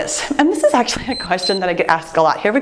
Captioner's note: timer beeps